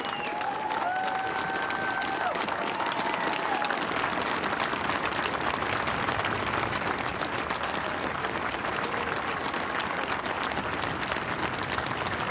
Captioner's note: cheers and applause